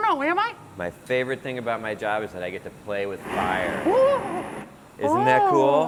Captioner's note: fire sound